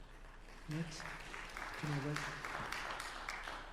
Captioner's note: applause